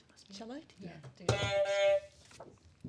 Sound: honk

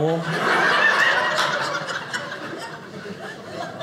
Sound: audience laughing

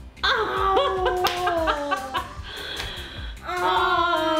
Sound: laughs

